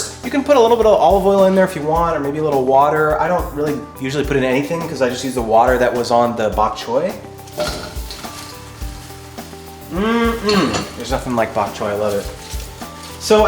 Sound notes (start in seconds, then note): 7.2 wok rattling; 9.9 hums happily